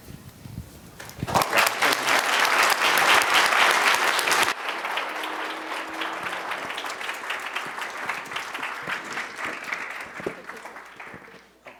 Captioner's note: applause